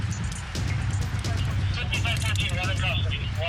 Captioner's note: police radio chatter